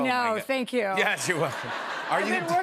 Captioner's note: laughter